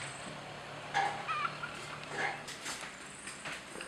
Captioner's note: chicken clucking outside